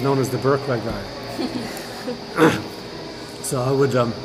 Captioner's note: laughter